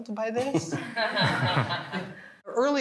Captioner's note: all laughing